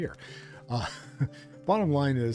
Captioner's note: chuckles